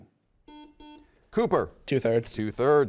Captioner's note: button beeping